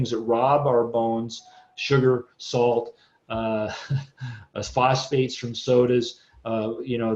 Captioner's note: chuckles